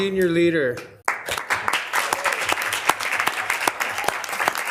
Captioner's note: committee applauds